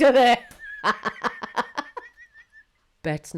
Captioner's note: laughs